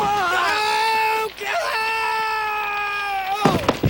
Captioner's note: yelling